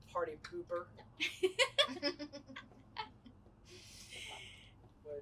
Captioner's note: women laugh